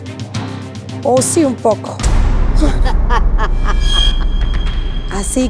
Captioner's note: LAUGHS IN 360º DIVA